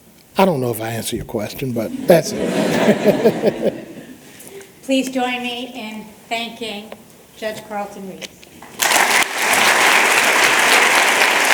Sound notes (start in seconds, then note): 1.8 laughter; 8.6 applause